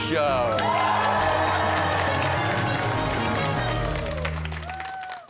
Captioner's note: cheers and applause